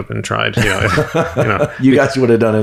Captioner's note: Andrew laughs